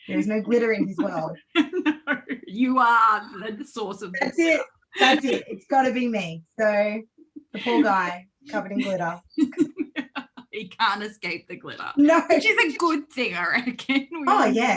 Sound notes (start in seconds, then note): 0.3 laughs; 9.3 laughs